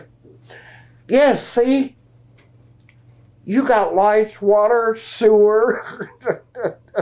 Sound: laughs

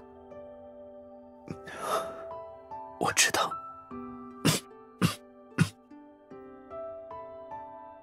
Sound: coughing sounds

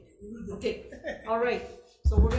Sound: laughing

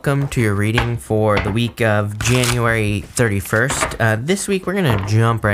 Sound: cards shuffle

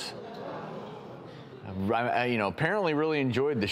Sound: audience gasps

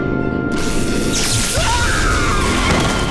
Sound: screaming

